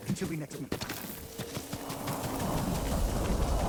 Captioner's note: thunder rumbling